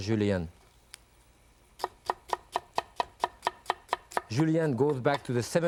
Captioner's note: knife tapping